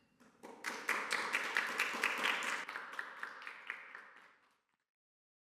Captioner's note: audience clapping